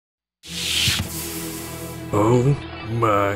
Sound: door swishes

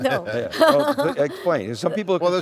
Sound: laughing

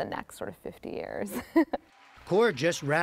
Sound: laughter

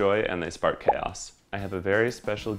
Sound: bubble pops

